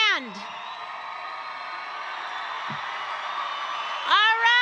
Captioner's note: all cheer loudly